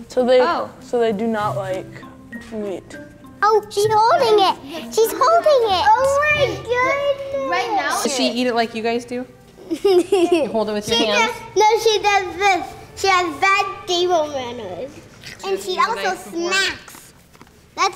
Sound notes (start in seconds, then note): 9.6 giggling